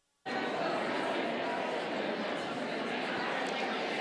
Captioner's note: audience chattering